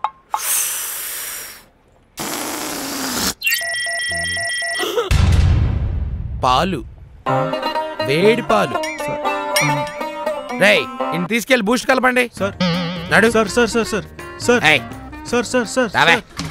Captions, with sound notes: (Inhaling) (Exhaling) Milk? Hoooot milk? Boys, take him and make him drink boost! - Come… - Sir...sir...sir Come now